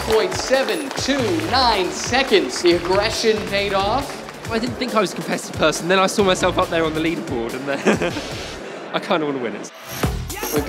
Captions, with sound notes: 12.729 seconds, the aggression paid off. - I didn't think I was the best person and then I saw myself up there on the leaderboard and (chuckles) I kind of want to win it.